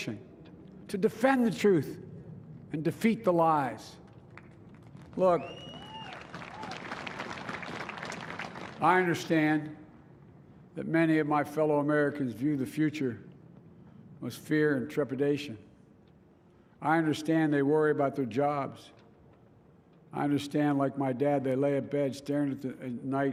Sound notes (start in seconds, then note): 8.8 applause